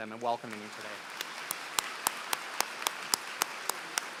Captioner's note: applause